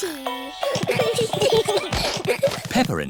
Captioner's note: all giggling